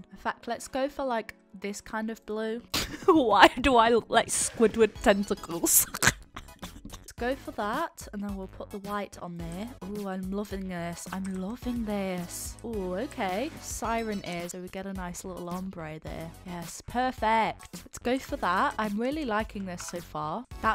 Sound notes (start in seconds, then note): 5.7 laughs